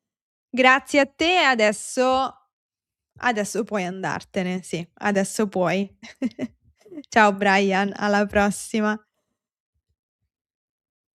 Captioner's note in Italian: risate